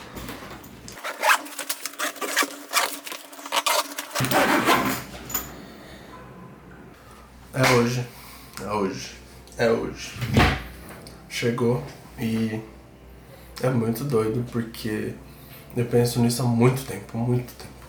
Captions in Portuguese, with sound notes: [som de zíper fechando] é hoje, é hoje, é hoje chegou, e é muito doido, porque eu penso nisso há muito tempo, muito tempo